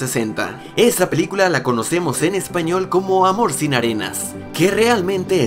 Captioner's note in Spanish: en español